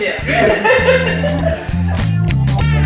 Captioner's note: laughter; funk music